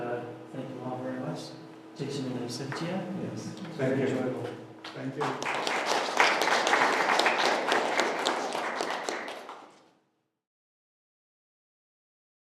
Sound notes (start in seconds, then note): 4.8 applauses